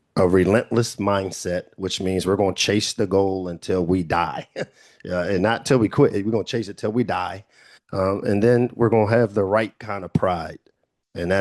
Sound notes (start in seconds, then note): 4.1 chuckles